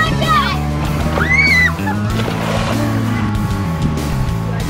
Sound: water splashing; yelling

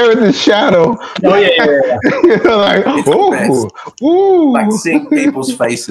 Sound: nodding head, laughing

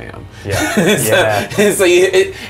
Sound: laughs

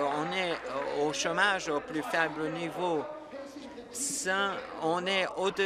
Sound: applause

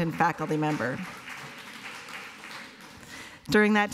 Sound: applause

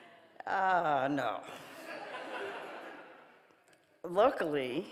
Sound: audience laughing

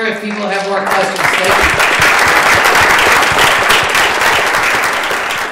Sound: applause

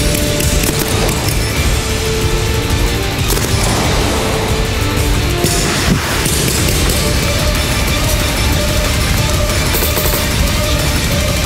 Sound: loud music; shooting

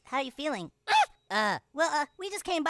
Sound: Tweek exclaims

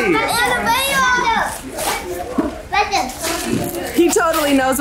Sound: family chatters excitedly

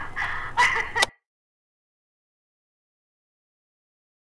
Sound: cassette player turns off

